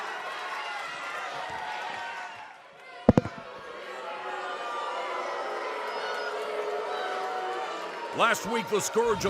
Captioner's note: cheers and applause